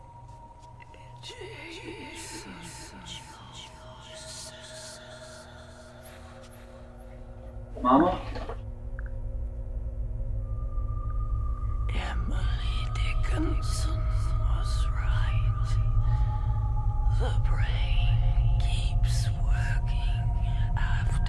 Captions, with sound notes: Jason Joseph! - Mama? - [Whispering Voice] Emily Dickinson was right. The brain keeps working after the body dies.